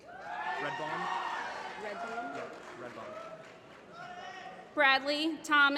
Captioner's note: applause